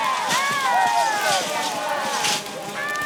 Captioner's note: fire crackling